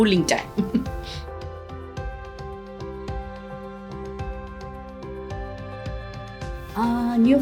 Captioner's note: gentle upbeat music; laughs